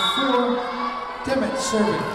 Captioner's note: whistle blowing